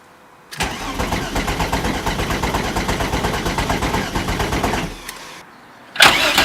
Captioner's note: engine cranking over from inside the car; engine cranking over from outside the car